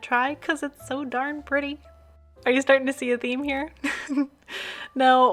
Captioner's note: laugh